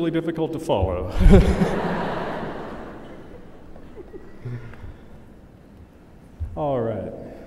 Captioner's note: laughter